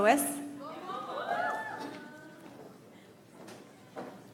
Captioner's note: audience applauds